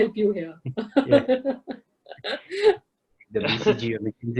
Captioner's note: laughs loudly